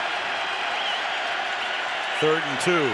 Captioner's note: cheering